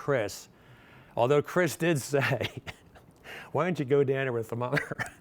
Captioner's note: chuckles